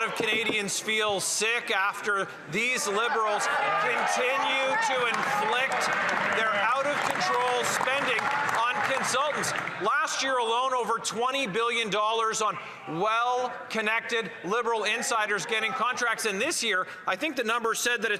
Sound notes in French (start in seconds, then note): 3.1 voix de l'interprète